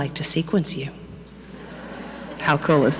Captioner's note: audience laughing